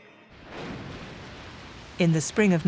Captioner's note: water splashes